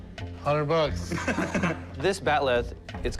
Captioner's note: laughter